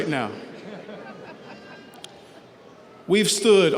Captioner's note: audience laughs